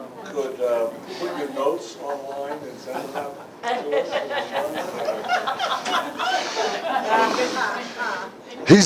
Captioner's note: Смех